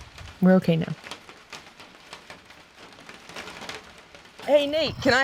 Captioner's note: rain pattering